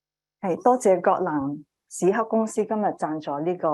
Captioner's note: speaking chinese